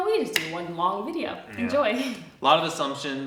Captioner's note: chuckles